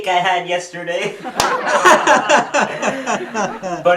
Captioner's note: laughs